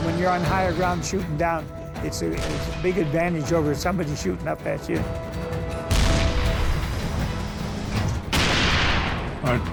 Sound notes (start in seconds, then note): 5.9 cannon firing; 6.7 turret whirring; 8.2 turret firing